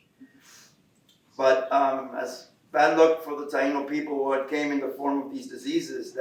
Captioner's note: Spanish